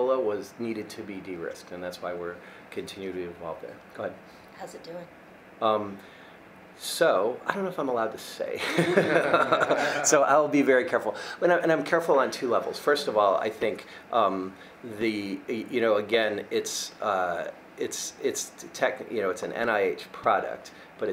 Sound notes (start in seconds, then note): 8.6 many laughing